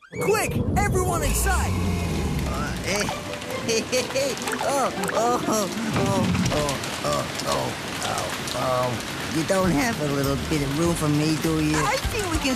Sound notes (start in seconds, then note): 3.9 chuckles; 6.1 mutters